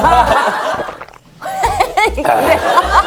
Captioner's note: gulping